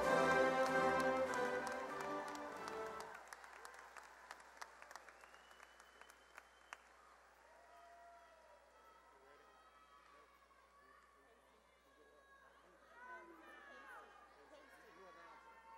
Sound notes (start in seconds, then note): 3.1 cheering and applause